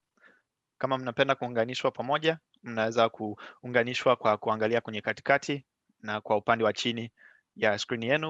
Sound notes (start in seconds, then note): 2.4 speaking swahili